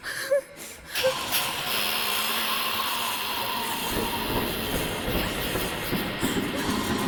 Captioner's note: woman gasping; Alice hissing; intense music